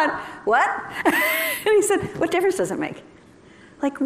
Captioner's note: laughter